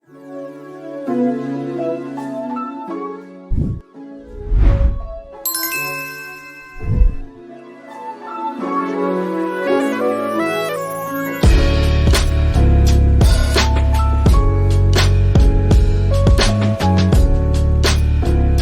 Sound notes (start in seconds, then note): 0.0 relaxed electronic music; 5.4 logo twinkles